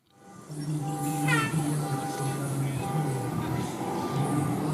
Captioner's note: traffic noises